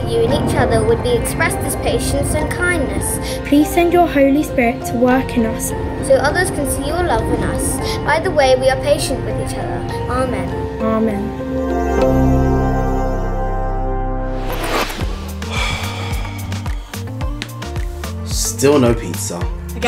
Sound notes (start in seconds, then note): 11.9 slow music; 15.3 sighs